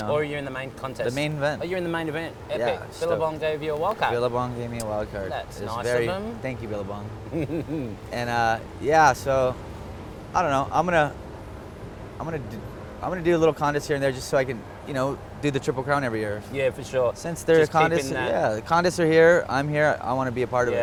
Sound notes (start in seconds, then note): 7.2 chuckles